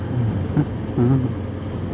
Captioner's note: humming